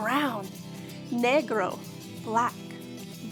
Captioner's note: speaking in foreign language